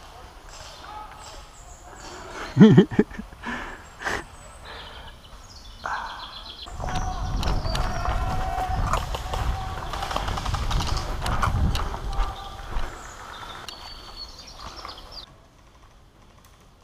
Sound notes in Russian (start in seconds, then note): 2.3 злорадный смех; 5.8 довольный выдох